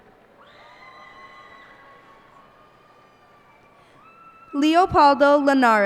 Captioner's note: cheers and applause